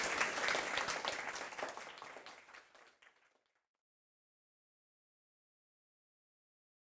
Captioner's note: applause